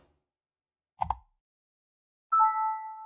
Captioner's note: button clicks; bell dings